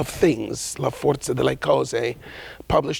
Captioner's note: speaking in a foreign language